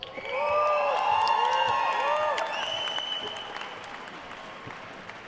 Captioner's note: attendees cheering and applauding